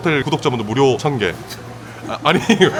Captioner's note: scoffs